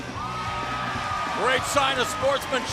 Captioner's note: cheers and applause